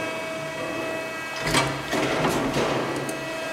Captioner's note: machine whirrs